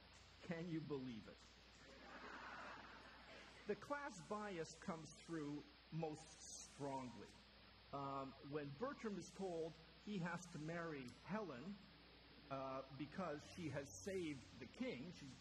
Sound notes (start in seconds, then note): 1.8 more chuckling